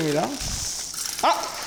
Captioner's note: rustling